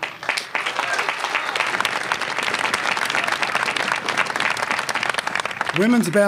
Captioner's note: applause